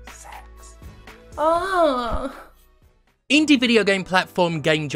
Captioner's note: suggestive moan